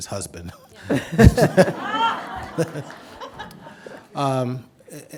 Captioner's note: audience laughing